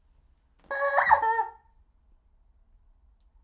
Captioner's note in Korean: 닭 인형 소리